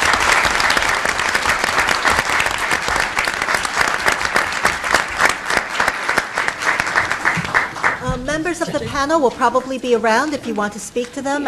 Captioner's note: applause